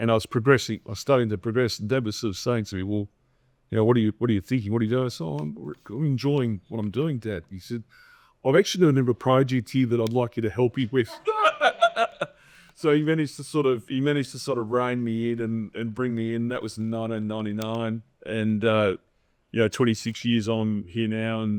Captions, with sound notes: and I was progressing, I was starting to progress and Dad was sort of saying to me, "Well, you know, what are you thinking? What are you doing?" I said, "I'm enjoying what I'm doing Dad." He said, "I've actually done a number project here that I'd like you to help me with." (audience laughing) So, he managed to sort of rein me in and bring me in. That was 1999 and, you know, 26 years on, I'm here now